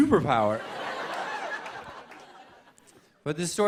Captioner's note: laughter